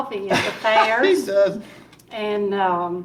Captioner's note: laughing